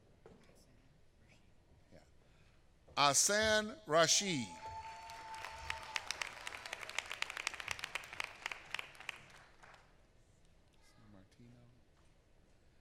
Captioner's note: applause